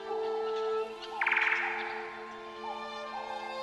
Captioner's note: bird singing